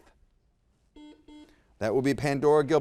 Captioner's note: buzzer beeps